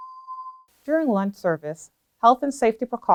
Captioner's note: bell tone